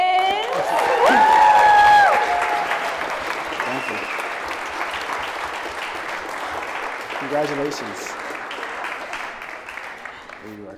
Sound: applause

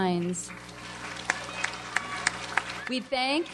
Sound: audience applauds

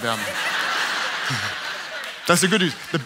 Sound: audience laughs

